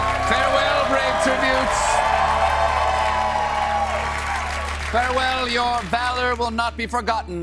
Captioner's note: cheers and applause